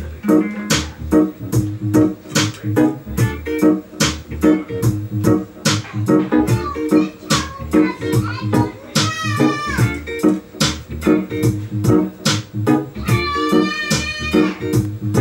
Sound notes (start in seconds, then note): 0.2 cruisy reggae music plays; 0.2 jams on guitar; 6.5 child squeals; 13.0 child yells